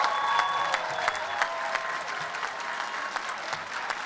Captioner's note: applause and cheering